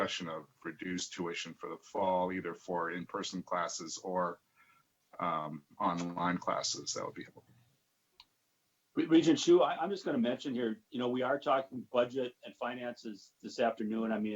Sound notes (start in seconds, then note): 8.2 murmurs